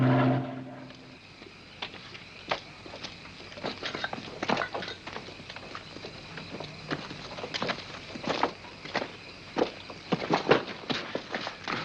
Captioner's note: mens' footsteps; stumbling sound